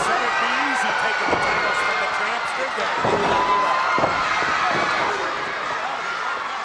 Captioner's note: presenter speaking faintly off mic